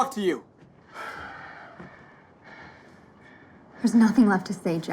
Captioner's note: sigh